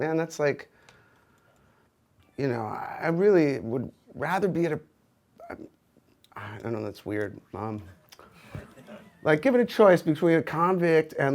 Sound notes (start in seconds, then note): 8.3 audience laughs